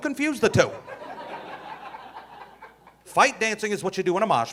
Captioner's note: audience laughing